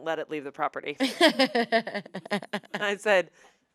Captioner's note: laughs